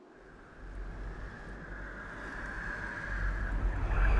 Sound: wind whistling

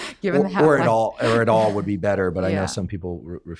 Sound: laughs

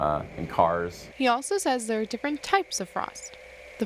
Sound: voiceover

